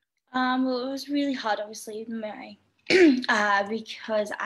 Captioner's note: clears throat